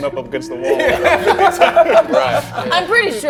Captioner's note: everyone laughing